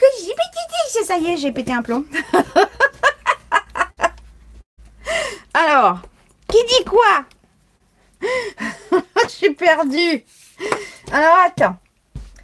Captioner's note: laughs